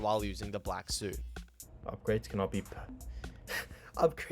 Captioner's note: laughs